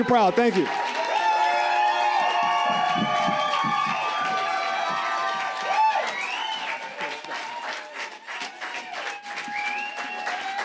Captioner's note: audience cheers and claps